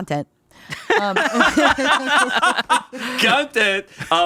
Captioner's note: all laughing